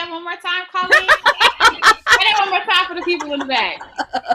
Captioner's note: laughing